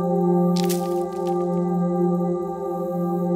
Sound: twig snaps in distance

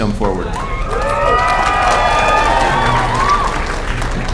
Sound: applause

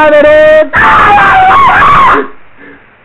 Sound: incoherent Screeching

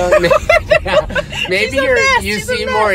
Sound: laughs

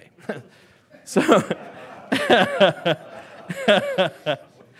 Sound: laughing

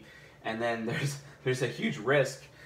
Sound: chuckles

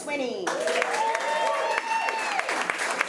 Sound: applause

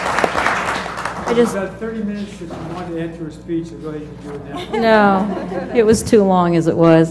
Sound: laugh

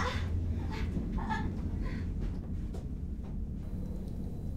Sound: Morgan groaning

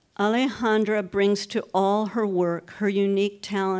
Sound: none

